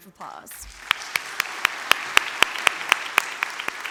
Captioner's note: audience applause